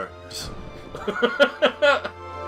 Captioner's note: laughs